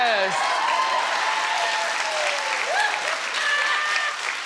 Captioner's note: audience applauds